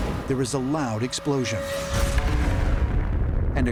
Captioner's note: explosion